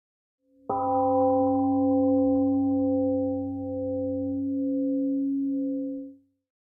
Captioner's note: temple gong rings and fades